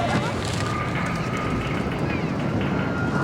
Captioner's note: screams